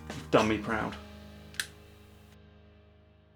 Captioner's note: click